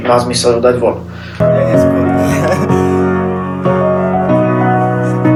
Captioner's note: studio chattering alongside piano